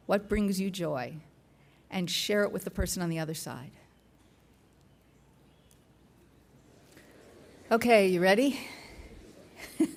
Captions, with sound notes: What brings you joy? And share it with the person on the other side. (silence) Okay, you ready?